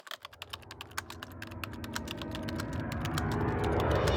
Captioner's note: typing